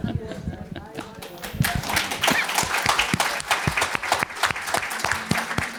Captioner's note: laughter; applause